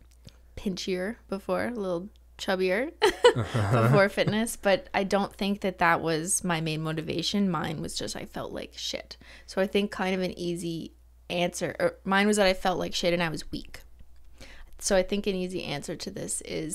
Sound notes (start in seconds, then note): 3.0 laughter